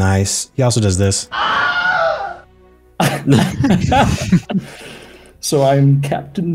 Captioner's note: Wilhelm Scream